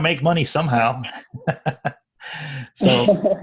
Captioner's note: laugh